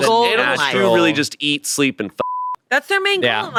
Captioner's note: beep